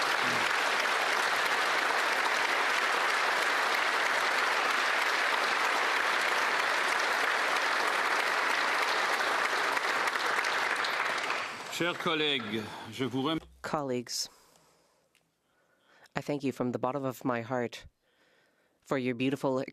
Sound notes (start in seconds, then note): 0.0 some Applause